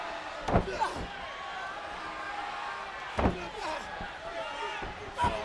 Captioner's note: wrestlers grunting